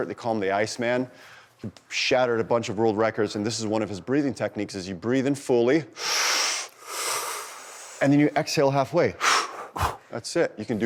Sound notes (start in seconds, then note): 5.9 sucks in air loudly; 9.2 exhales loudly